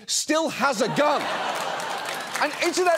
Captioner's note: audience laughs